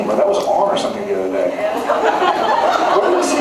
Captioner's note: laughs